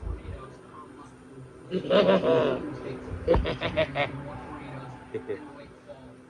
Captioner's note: laughs